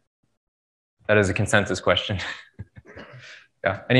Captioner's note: laughs